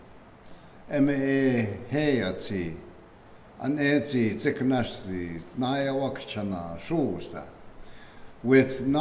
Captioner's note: speaking keres language